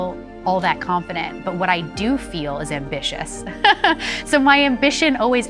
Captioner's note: laughs